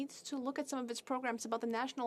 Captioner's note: speaking French